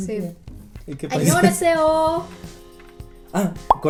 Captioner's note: speaks Korean